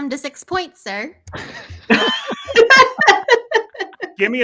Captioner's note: all laughing